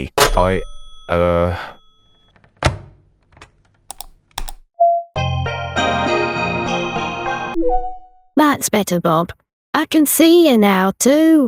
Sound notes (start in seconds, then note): 1.8 mouse clicks; 5.5 video call ringtone